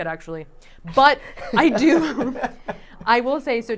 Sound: chuckling

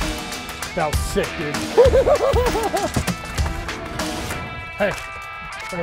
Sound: laughing

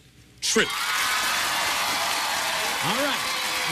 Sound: cheers and applause

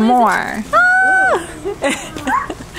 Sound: squeals

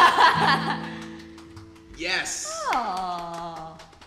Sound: laughter; clapping

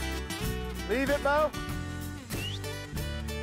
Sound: uplifting music; whistles; uplifting music

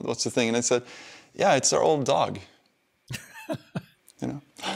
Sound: laughs

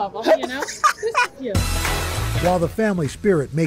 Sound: laughter

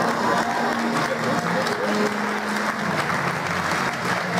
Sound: applause

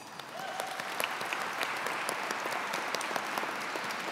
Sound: audience clapping

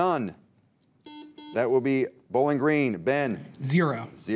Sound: buzzer beeps

